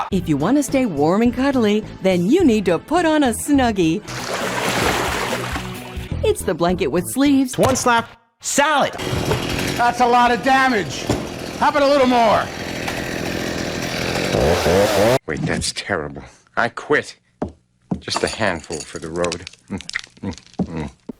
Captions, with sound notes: "If you want to stay warm and cuddly, then you need to put on a Snuggie..." [sound of splashing water] "It's the blanket with sleeves." "One slap... salad!" [chainsaw noises] "That's a lot of damage! How about a little more?" [chainsaw noises] "Wait, that's terrible. I quit!" "Just a handful for the road." [chewing noises]